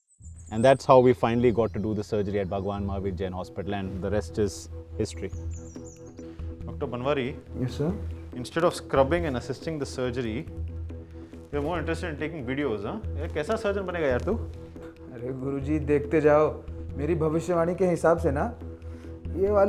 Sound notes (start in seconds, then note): 13.1 sarcastically